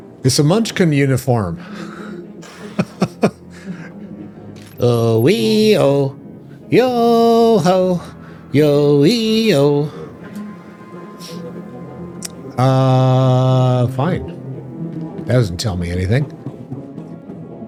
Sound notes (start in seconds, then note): 2.4 laughter